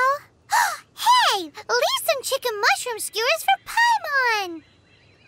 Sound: gasp

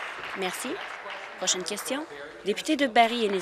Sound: applause

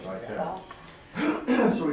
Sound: clears throat

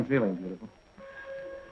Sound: factory horn

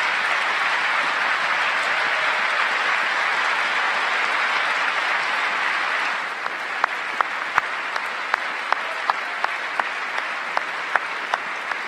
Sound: applause

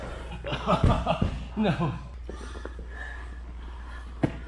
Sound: laughing

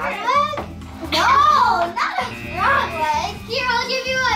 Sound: buzzer

